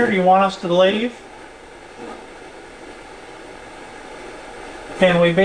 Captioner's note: static sound